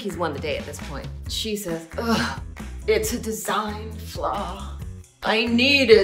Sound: sighing

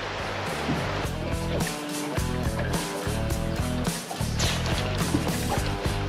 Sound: rod whipping

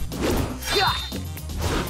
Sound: grunting

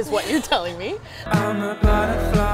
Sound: both chuckles

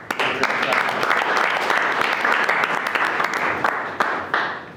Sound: everyone clapping

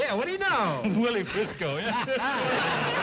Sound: laughing

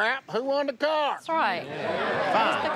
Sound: chatter

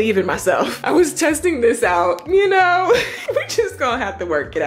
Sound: chuckles

